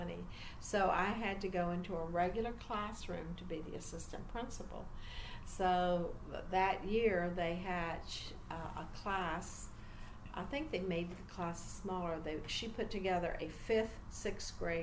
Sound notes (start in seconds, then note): none